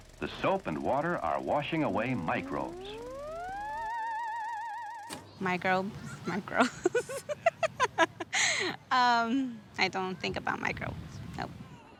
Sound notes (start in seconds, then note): 3.1 otherwordly sound effect; 5.8 laughs